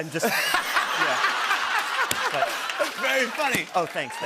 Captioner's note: laughter